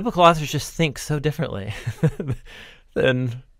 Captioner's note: chuckles